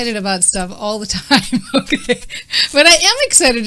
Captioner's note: laughing